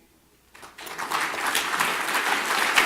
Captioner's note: clapping